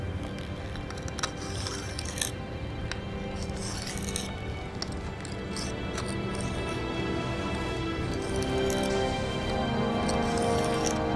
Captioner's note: knife scraping on stone